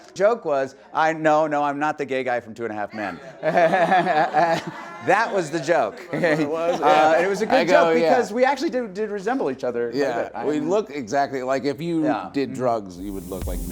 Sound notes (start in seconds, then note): 3.0 laughing